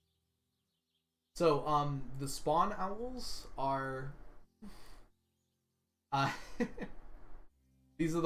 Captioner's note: laughs